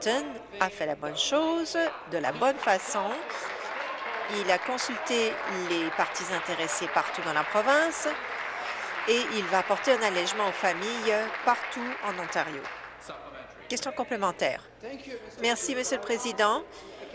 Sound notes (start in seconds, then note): 5.8 applause